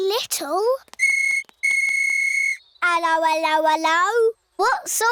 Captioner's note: blows whistle